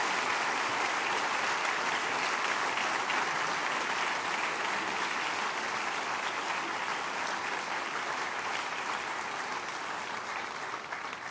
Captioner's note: applause